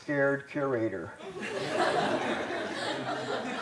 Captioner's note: laughter